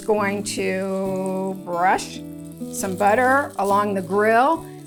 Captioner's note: grill sizzling